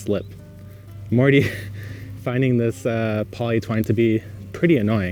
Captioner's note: laughs